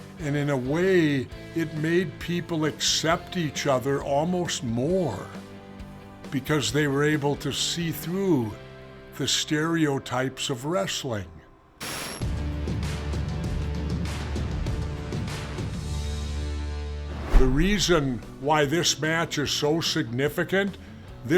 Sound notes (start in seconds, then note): 11.8 static crackling; 12.4 compelling music